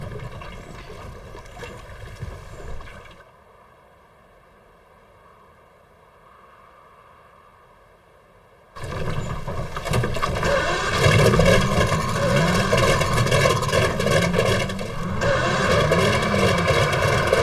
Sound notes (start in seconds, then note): 10.6 motor sputtering